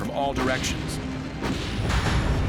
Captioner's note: ship firing